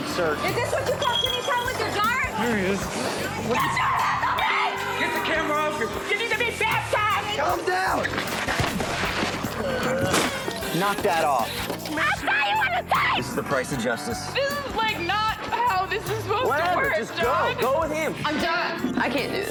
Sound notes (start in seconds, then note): 10.0 crash